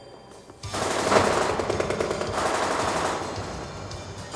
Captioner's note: guns firing